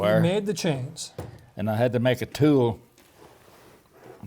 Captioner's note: wood thuds